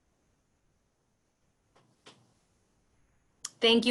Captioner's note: silence